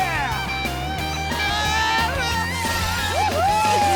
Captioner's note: screaming